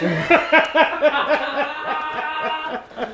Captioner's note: laughter